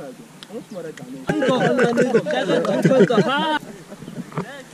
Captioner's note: laughs